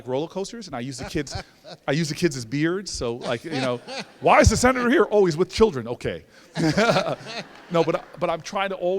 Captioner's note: laughter